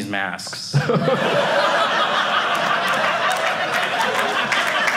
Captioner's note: audience laughing; audience applauding